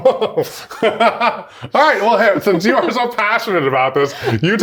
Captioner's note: laughs